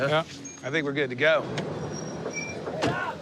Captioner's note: brakes squeal